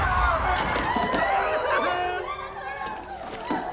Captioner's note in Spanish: gritos; grito de dolor